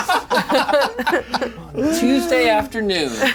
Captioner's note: players laughing